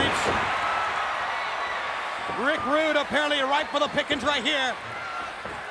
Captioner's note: applause